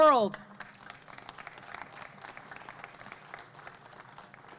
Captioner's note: audience clapping